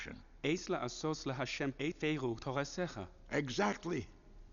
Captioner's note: speaking Hebrew